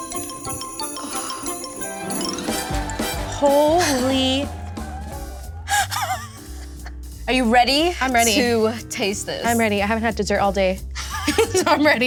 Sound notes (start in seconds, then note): 0.1 cheerful music; 5.6 laughing; 11.0 both laughing